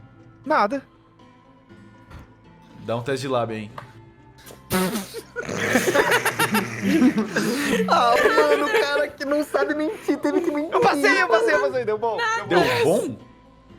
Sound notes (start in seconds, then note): 4.5 laughs